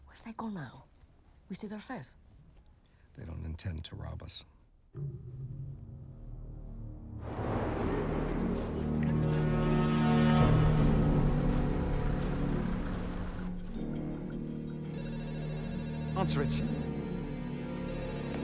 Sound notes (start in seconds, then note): 6.6 ominous music; 14.7 telephone ringing